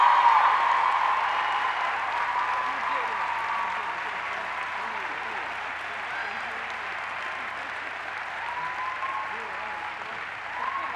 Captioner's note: cheers and applause